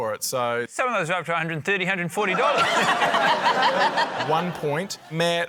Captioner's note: laughter